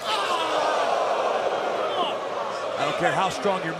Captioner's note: crowd cheering